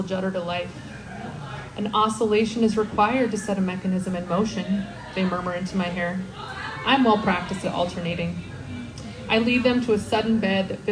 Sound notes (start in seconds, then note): 1.0 woo from crowd